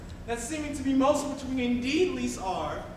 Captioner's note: none